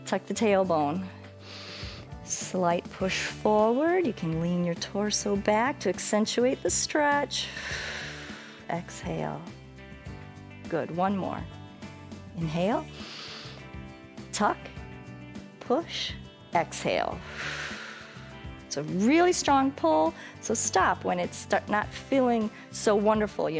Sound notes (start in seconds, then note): 7.4 exhales; 12.9 inhales; 17.4 exhales